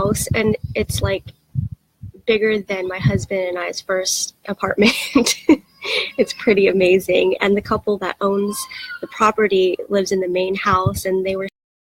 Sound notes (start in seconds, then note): 4.8 laughs